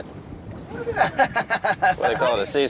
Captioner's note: laughs